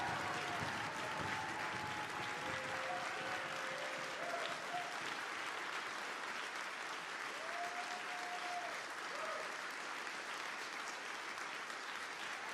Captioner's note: applause